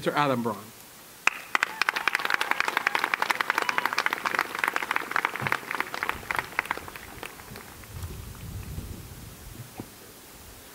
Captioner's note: applause